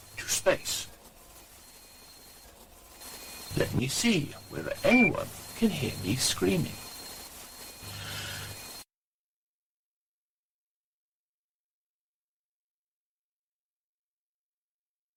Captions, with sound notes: ...to space. Let me see whether anyone can hear me screaming. [complete silence]